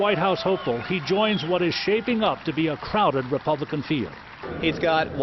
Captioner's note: cheering